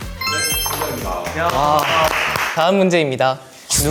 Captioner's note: clap clap